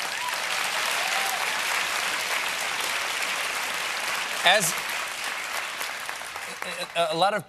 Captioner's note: applause